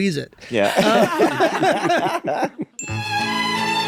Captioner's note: all laughing; gentle music